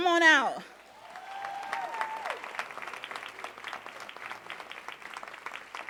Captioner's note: audience cheering and applauding